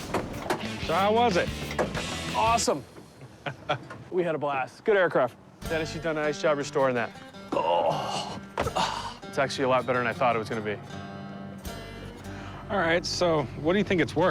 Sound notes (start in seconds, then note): 3.1 laughs